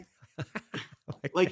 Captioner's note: laughing